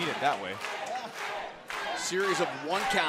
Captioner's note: crowd cheering